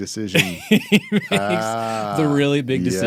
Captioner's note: laughing